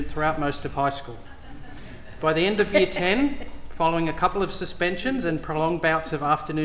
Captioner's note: laughter